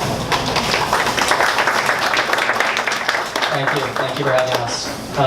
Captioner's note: audience applauds